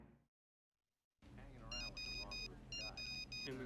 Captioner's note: cell phone beeping